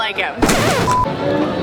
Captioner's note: record scratches